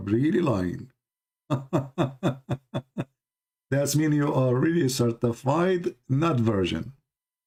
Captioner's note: Ketawa